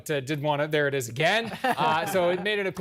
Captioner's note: laughter